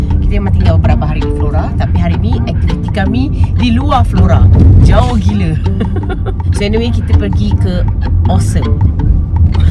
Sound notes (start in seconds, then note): 5.7 laugh